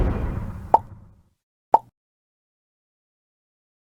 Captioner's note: Peashooter sound effects again